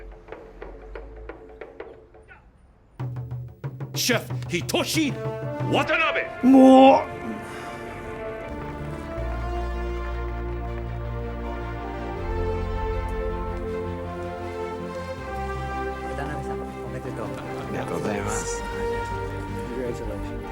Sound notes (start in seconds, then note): 0.0 drums beating; 6.3 groans; 9.3 triumphant music plays; 17.4 conversing in japanese